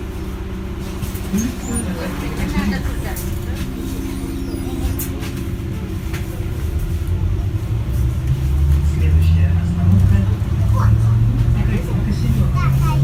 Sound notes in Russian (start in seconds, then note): 1.1 закрытие дверей